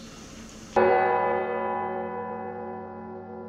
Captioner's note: bells ringing